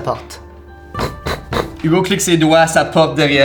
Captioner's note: three knocks